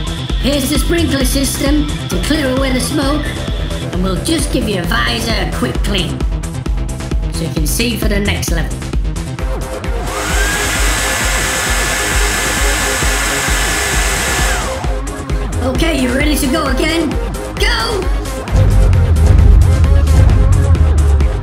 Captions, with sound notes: Here's the sprinkler system to clear away the smoke! And we'll just give your visor a quick clean so you can see for the next level. [Powerful Air Dryer Noise] Okay, are you ready to go again? Go! [Huge BOOMS!]